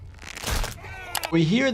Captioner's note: airway crunching